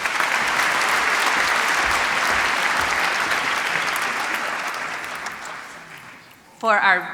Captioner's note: applause